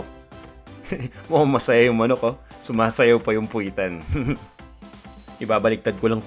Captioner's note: chuckles; chuckles